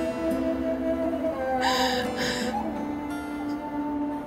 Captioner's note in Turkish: Ağlama sesi